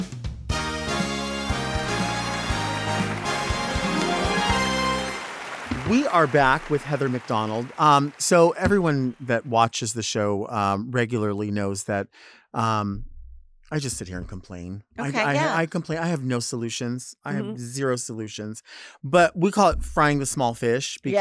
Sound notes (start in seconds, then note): 0.5 triumphant music; 5.0 audience applauds